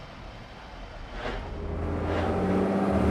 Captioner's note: car engines